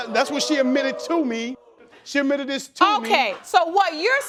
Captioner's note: audience whooping